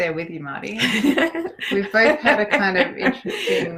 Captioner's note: laughs